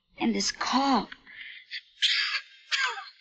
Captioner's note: coughs